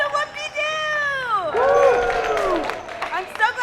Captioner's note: audience cheers